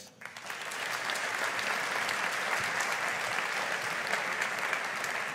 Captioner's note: audience applauding